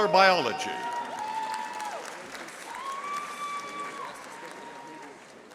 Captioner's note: audience applauding